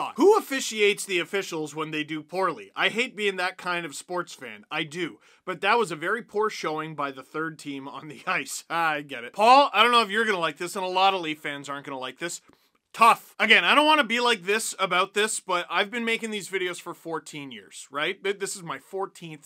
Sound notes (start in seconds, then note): 8.5 laugh